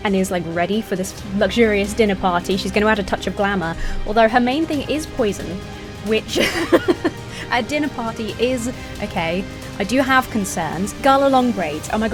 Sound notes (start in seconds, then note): 6.2 laughing